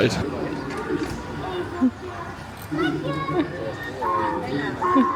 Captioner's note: tourists chattering; donkey hee hawing